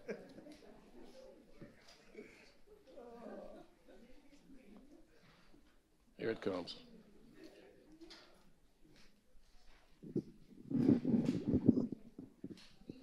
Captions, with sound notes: (audience chattering quietly) Here it comes. (microphone feedback)